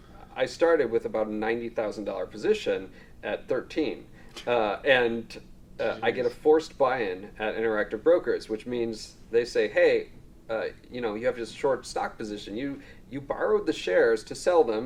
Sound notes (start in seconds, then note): none